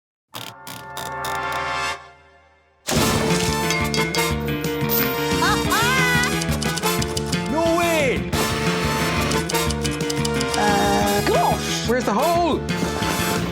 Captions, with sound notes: [whirring] [theme music playing] [laughs] No way. -Uh... -Gosh. Where's the hole?